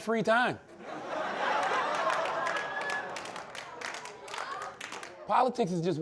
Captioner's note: laughter/applause